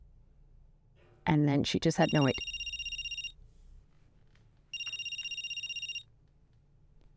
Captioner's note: phone rings